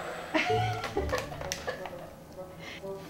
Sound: laughter

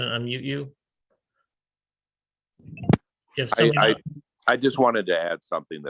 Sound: faintly speaking

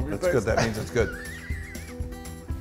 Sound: laugh

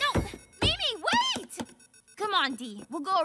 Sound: elevator dings

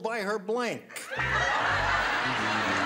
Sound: laughter

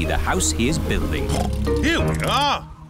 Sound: oinks

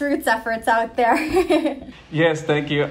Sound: laughing

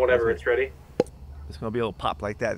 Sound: imitate popping sound

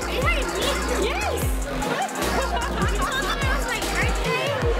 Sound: laughing

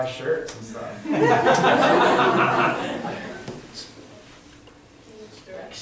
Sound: audience laughter

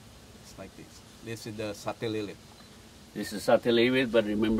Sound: chef speaking

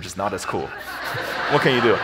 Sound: audience laughs

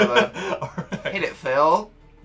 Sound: laughs

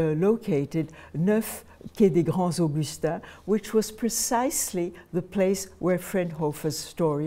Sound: speaking french

